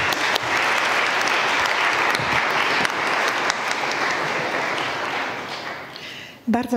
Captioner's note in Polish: oklaski